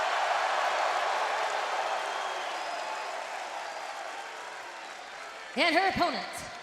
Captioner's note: crowd cheering